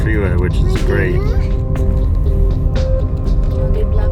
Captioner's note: child babbles